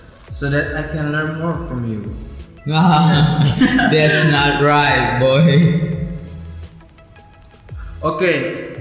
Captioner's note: ahahahahah